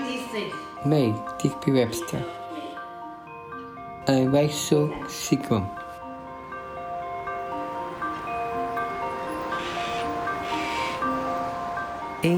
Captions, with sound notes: Me, Digby Webster And Rachel Sugrim (sound of bells and a bird squawking)